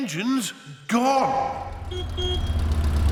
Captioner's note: horn honks